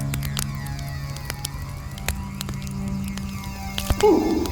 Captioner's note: fire crackling continues